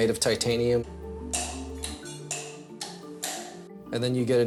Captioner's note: assistant hammering on bone